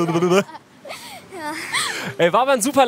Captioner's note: Sie lachen